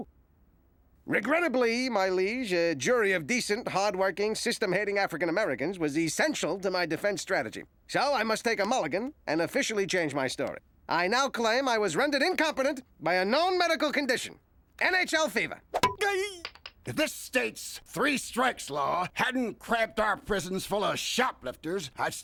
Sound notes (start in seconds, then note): 15.7 yelps